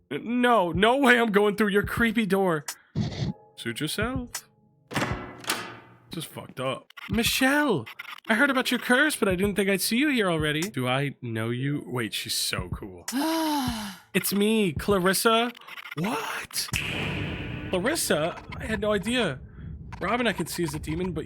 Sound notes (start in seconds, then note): 4.9 door slams